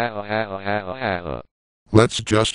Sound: Speakonia Male 1 laughs

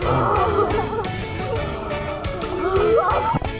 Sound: deep breath

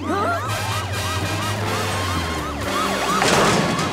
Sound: siren blaring

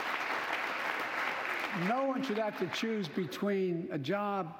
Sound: applause

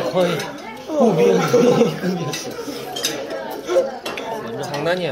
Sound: pow

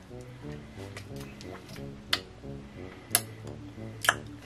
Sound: smacking sounds

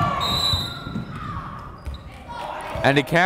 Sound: whistle

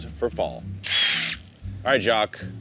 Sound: drill whirs

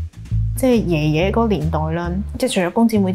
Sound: Cantonese

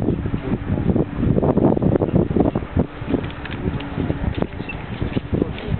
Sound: wind

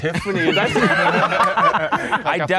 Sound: group laughing

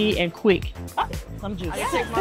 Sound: exclaiming

